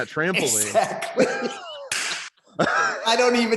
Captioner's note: laughs